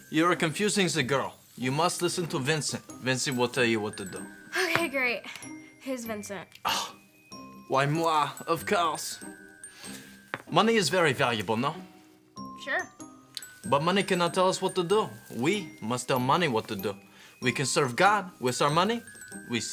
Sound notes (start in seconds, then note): 6.6 scoffing